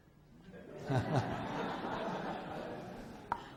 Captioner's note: laughs